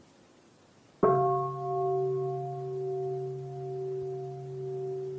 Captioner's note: bell